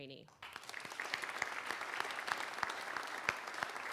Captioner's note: applause